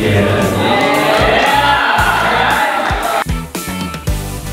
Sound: screams

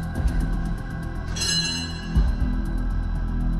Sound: clang

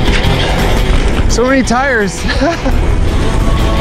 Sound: invigorating music; laughs; invigorating music

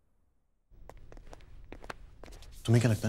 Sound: footsteps

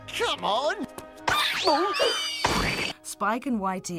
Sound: squealing

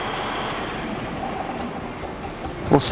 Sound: sfx: engine shutting down

